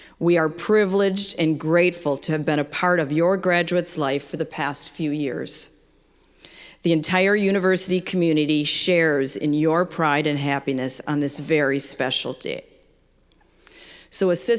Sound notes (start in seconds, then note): none